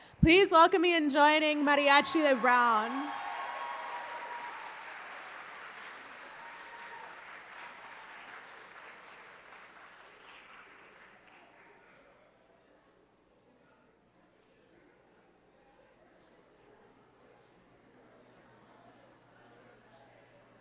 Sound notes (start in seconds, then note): 2.9 applause